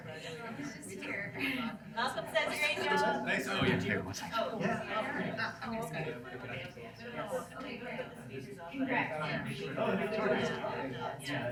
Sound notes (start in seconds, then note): none